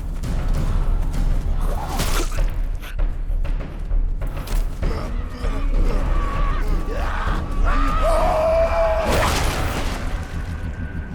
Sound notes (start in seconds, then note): 5.3 growling; 7.5 howls